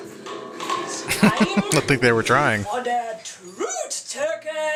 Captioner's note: laughing